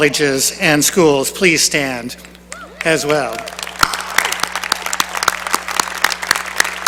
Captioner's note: applause